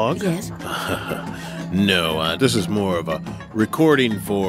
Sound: laughs

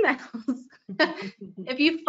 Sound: both laughing

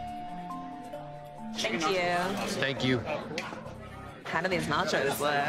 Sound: none

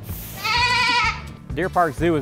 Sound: goat calls

